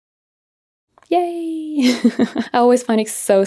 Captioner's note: chuckles